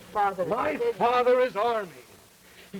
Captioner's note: Hall Jr. shouting